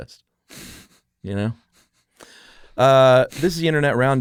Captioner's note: laughs